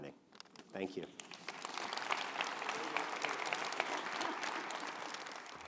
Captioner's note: audience applauds